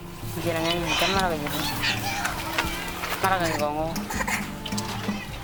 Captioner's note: speaking in foreign language